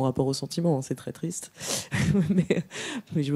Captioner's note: laughs